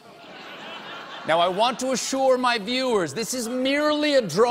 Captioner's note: laughter